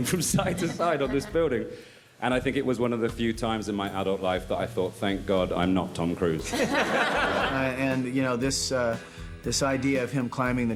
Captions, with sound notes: from side to side on this building. And I think it was one of the few times in my adult life that I thought, "Thank God I'm not Tom Cruise." (crowd laughs) - And you know, this idea of him climbing